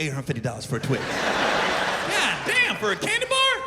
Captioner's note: laughter